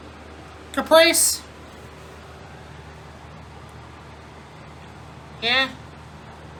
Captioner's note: normal voice